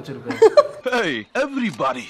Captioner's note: giggles